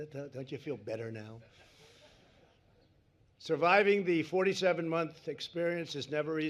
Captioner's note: laughter